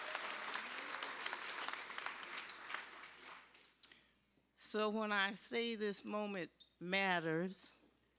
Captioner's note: applause